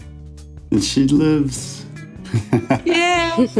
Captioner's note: chuckles